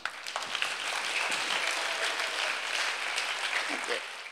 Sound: applause

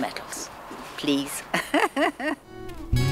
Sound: laughs

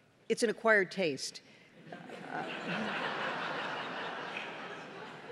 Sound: laughter

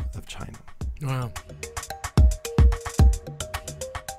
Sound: voiceover

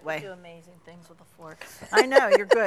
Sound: laughs

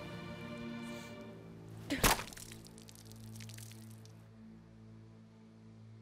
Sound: thud

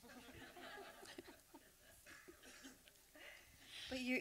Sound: laughter

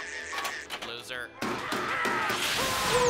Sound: screaming; whirring

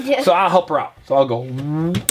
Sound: voiceover

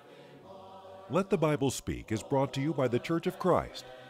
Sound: voiceover

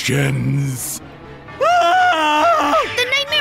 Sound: scream

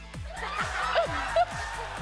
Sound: laughing

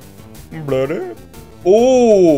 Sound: Pokemon noises

